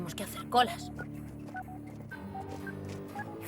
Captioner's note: satellite beeping